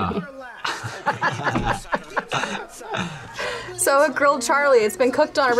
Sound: both laugh

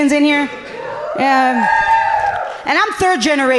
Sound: audience cheering happily

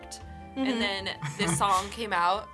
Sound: laughs

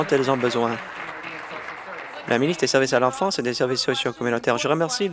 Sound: applause

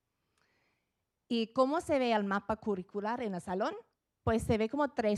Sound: speaking Spanish

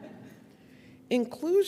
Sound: audience laughing

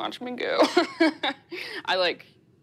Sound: laughs

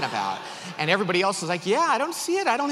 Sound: audience laughs

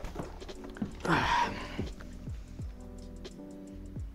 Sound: sighing

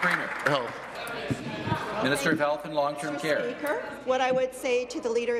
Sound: applause

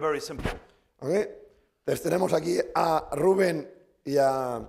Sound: speaking spanish

